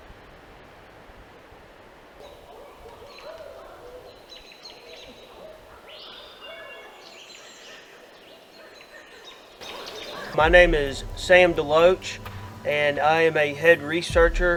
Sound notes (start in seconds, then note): 3.1 birds chirping